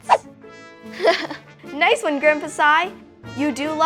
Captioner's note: laughs